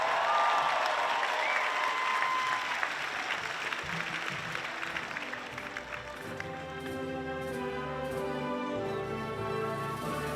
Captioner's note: applause